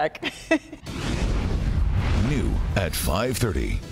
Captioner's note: laughter